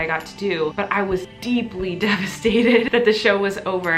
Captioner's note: laughs